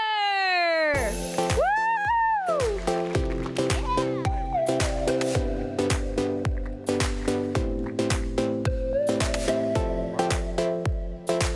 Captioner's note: applause